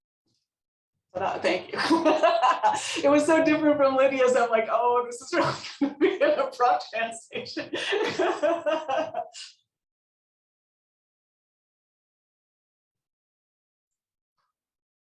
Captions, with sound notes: Thank you. (laughs) It was so different from Lydia's that like, "oh, this is" (laughs)